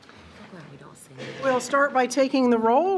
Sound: faintly speaking

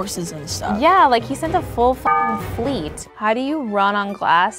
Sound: beeps

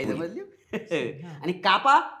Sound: laughs

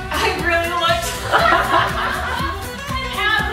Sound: laughs

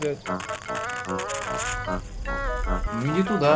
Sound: someone whistling in the woods

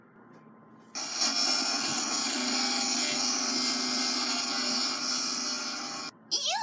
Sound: glitching

